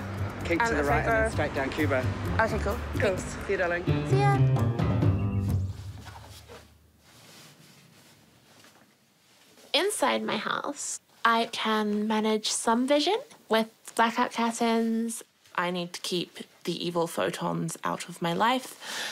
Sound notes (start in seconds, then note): 5.5 rustling